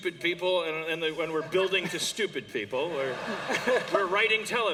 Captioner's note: laughter